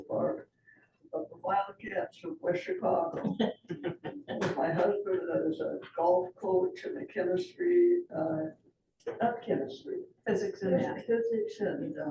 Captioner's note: laughter